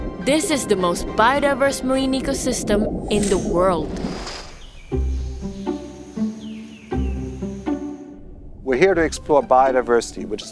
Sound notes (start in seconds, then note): 3.9 logo whooshes; 4.8 birds chirping; 4.8 upbeat music